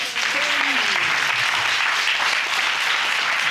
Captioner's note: audience clapping